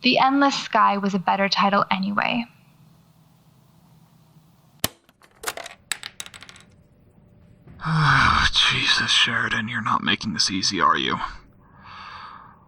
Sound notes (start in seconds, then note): 2.6 clack and clatter as tape ejects; 7.8 sighs